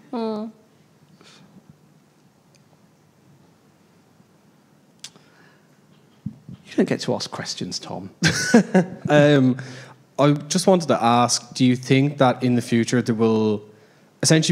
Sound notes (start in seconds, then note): 8.2 laughs